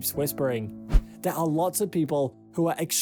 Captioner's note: screen swishes